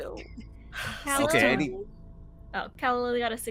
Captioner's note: Hortense laughs